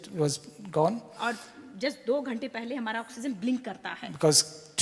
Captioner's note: speaks foreign language